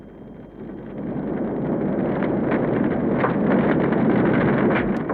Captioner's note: fire crackling